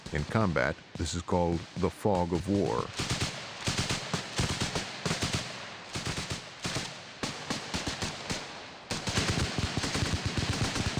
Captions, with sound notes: In combat, this is called the "fog of war". (rapid, continuous gunfire)